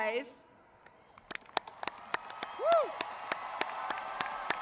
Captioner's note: applauding